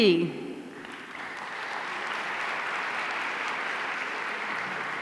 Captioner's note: audience applauding